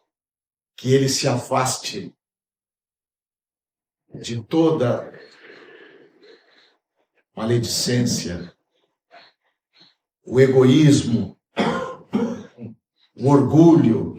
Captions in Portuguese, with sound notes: que ele se afaste de toda maledicência, o egoísmo. [limpando a garganta][tosse] o orgulho,